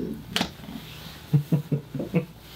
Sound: laughing

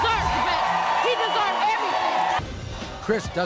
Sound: audience cheers

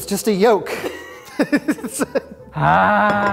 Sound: laughing

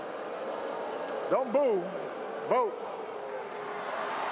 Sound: cheers & applause

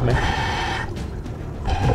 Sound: breathing

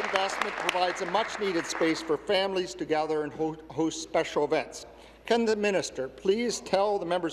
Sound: applause

